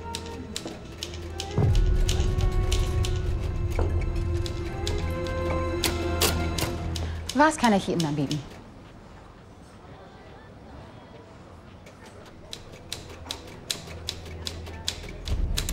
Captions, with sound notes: [IN GERMAN] What can I bring you? [CONTINUES TYPING]